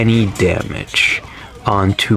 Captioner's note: inhales Oxygen